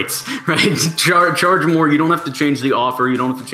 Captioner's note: laughs